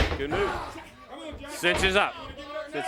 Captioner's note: crowd chatter